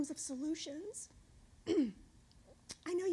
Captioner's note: clears throat